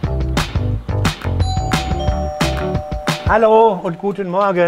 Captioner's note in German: Türglocke, lockere Musik